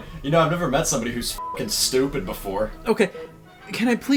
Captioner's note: beep